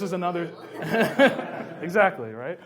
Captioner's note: laughs